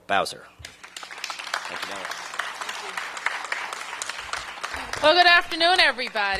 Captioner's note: applause